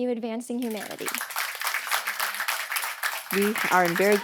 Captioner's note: applause